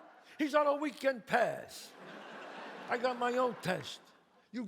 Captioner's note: audience laughs